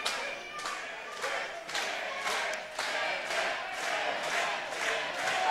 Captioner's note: crowd chanting